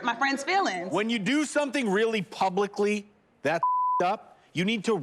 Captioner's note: beep